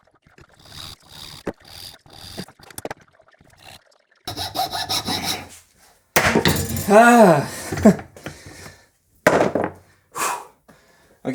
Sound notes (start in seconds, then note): 0.6 high-speed sawing and filing; 6.2 clang; 6.8 chuckle; 6.9 deep sigh; 9.2 wood clatters